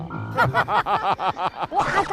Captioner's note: hahahaha